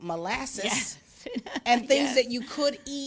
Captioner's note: laughs